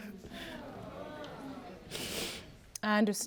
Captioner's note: sniffles